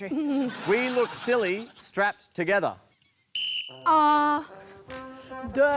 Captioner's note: blows whistle